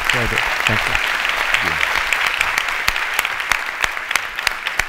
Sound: audience clapping

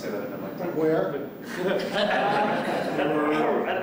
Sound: laughter

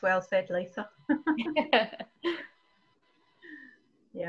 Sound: laughs

